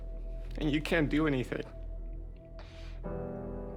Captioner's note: none